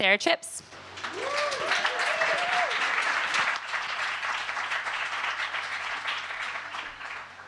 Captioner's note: applause